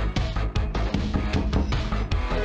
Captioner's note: UPBEAT 80's WORKOUT MUSIC; knocking; UPBEAT 80's WORKOUT MUSIC